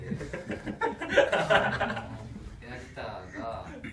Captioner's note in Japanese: 失笑